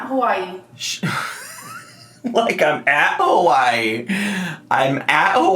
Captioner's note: laughing